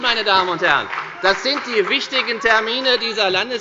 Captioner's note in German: Demonstrativer Beifall bei dem BÜNDNIS 90/DIE GRÜNEN